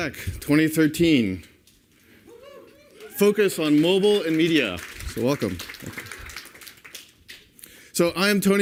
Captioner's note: cheers and applause